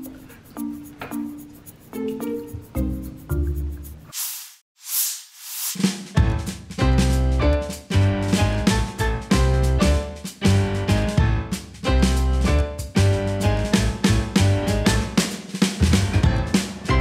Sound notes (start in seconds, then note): 0.0 playful music; 4.4 rustling; 5.5 upbeat music